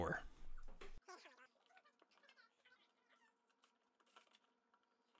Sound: tape fast-forwarding

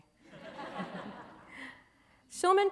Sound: laughter

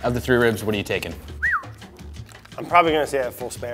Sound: Brad whistles

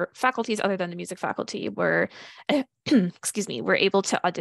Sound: clears throat

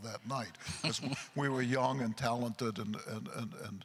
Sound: chuckles

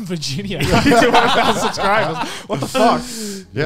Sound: laughing

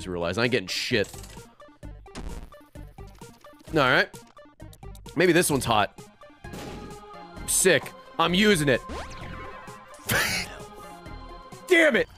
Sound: laughs

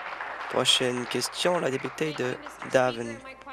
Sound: applause

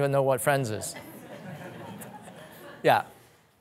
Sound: audience laughing

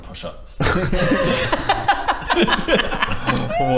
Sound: incredulous laughter

